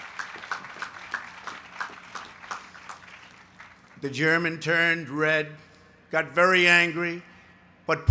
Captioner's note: applause